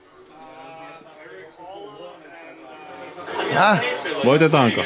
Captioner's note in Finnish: taustapuhetta